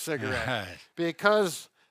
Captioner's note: chuckles